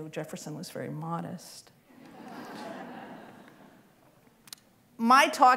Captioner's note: laughter